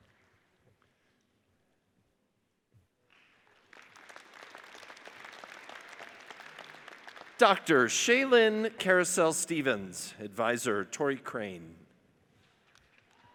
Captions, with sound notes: (audience applauds) Dr. Shaelyn Carousel Stephens, adviser Tori Crane.